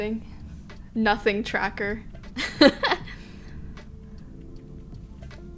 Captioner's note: she laughs